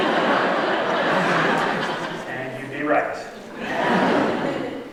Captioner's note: laughter